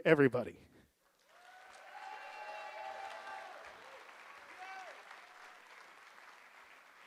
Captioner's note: cheers and applause